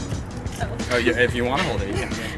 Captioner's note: laughs